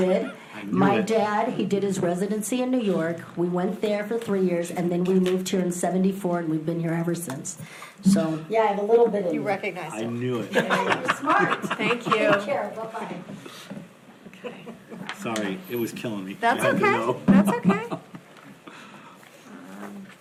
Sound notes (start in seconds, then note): 10.4 board laughs